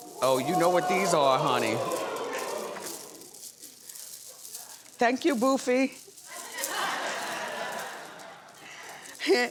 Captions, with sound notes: Oh, you know what these are, honey. (audience exclaims) (beads rattling) Thank you, Boofy. (audience laughs)